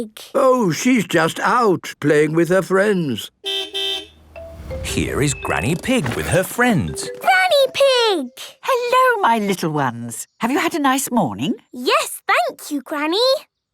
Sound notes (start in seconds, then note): 3.4 car beep